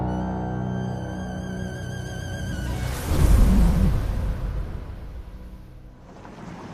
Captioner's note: sandstorm